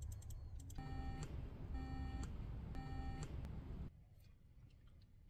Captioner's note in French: Bip-bip-bip